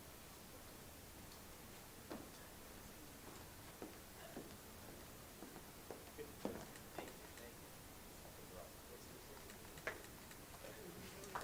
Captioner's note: applause